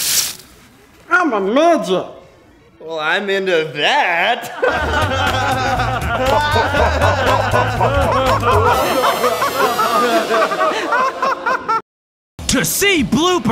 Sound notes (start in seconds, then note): 4.6 laughter